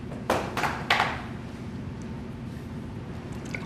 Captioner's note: drinking